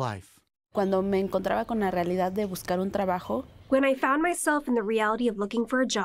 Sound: through translator

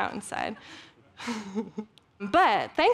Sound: giggling

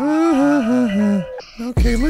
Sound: laughing uncomfortably

